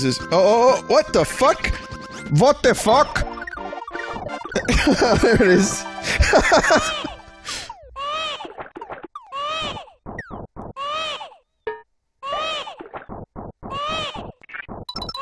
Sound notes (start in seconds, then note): 2.1 RP voice; 4.4 laughs